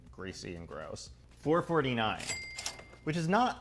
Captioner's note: register ka-ching